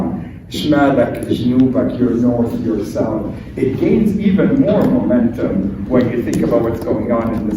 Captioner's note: speaking arabic